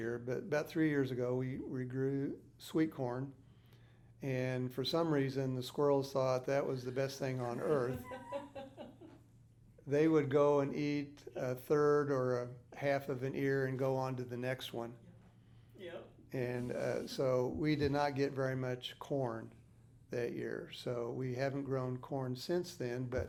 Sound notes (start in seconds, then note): 8.8 interviewer laughing